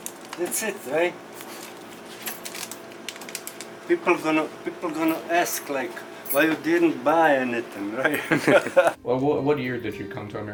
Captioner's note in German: Lacht